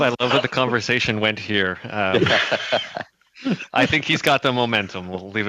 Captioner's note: laughter